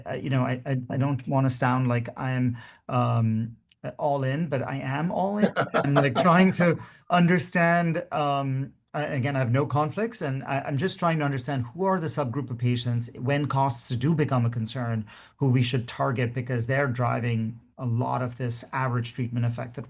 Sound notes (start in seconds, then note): 5.3 laughing